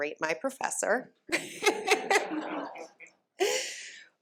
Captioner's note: laughter